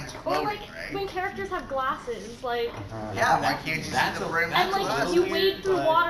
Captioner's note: murmurs of agreement